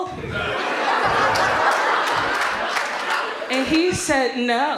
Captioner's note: audience laughs